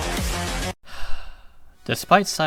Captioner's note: sigh